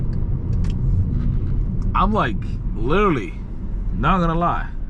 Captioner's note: car engine roaring